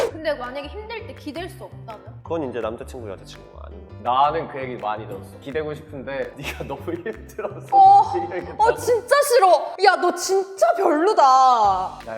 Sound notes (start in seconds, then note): 6.6 laughs